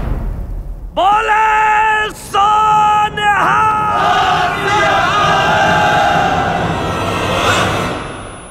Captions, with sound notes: [War cry] Victory, in the name of the Lord! The Lord, the ultimate Truth!